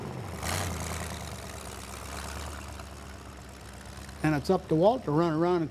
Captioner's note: engine revving